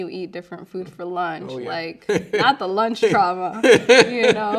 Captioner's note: laughing